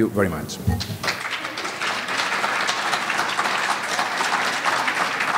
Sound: audience applauding

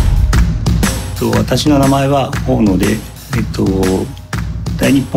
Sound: speaking Japanese

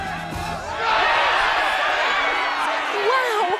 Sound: cheering

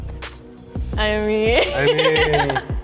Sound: laughs

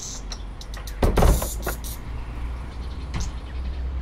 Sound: door closes

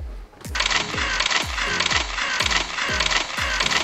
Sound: camera shutters

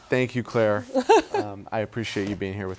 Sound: laughs

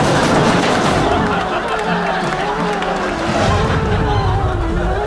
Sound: audience laughing; tense music; air whooshing

